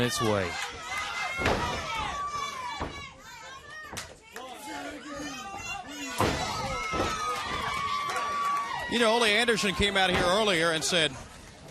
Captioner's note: crowd cheering